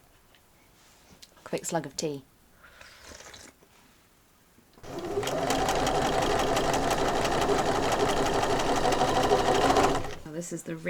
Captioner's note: sewing continues